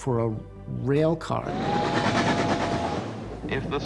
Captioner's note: train whistle blows